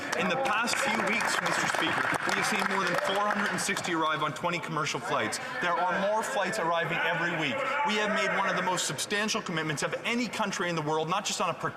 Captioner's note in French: voix de l'interprète